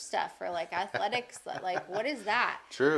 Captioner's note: laughing